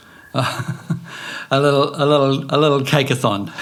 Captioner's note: laughing